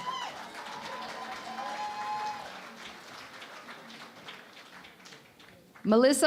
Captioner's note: cheering and Applause